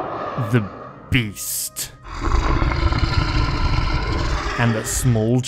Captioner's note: growls